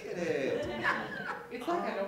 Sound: laughter

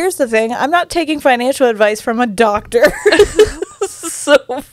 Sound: laughs

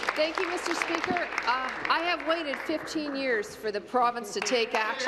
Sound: applause

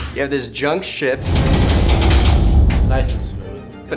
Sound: hull rattling

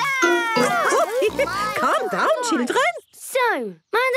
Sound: laughing

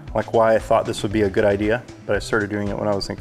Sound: none

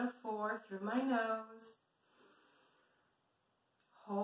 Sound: breath in

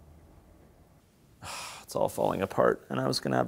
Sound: sighs

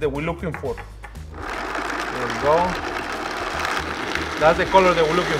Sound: blender grinding

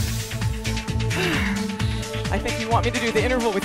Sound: sighs

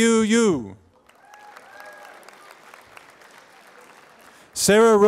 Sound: applause

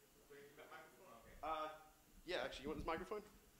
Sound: speaks quietly

